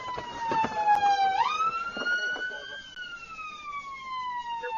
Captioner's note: police car siren